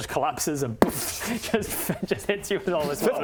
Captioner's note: boof